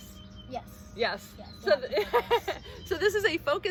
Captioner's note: laughing